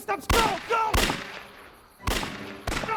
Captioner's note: gunshots firing; gunshots continue firing